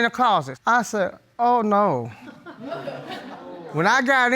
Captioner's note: audience tittering